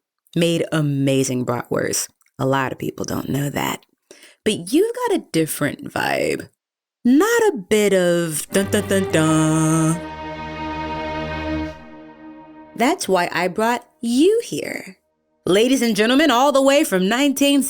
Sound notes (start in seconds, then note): 8.0 does the “duh-duh-duh-duuuuh” opening